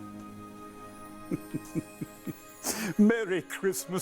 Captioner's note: chuckling